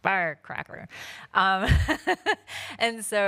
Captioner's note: laughs